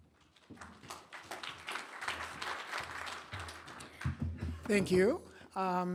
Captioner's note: applause